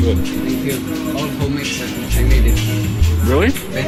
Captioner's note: man talking